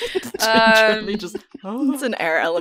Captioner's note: laughter; laughing